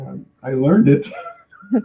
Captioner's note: laughing